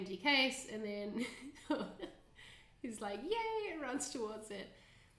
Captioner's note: chuckling